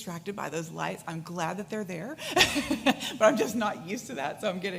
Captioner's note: laughs